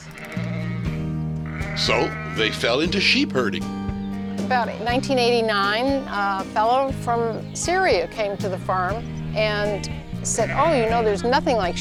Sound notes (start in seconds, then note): 0.7 cheerful acoustic guitar; 1.4 sheep calling